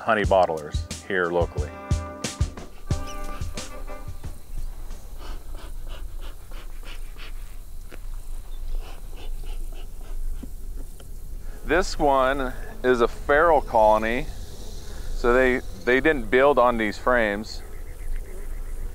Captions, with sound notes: honey bottlers, here locally. (smoker whooshing) This one is a feral colony. So they didn't build on these frames.